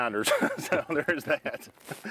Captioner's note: laughs